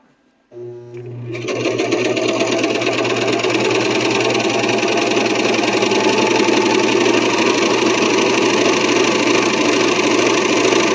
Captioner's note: serger noise